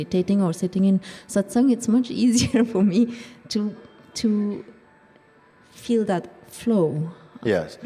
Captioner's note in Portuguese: risos